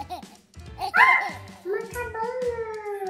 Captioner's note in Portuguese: Grito